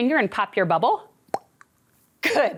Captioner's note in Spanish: La imita el estallido de burbujas